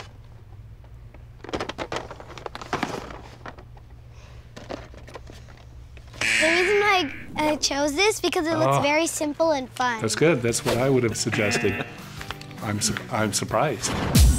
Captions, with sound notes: (buzzer) The reason why I chose this, because it looked very simple and fun. - That's good. That's what I would've suggested. I'm surprised.